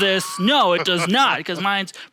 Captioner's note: laughing